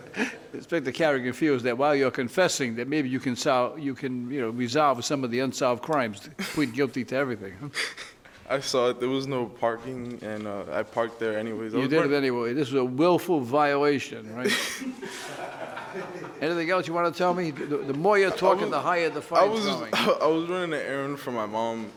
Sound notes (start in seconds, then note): 14.4 laughter